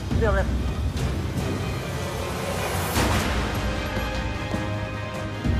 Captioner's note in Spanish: Disparos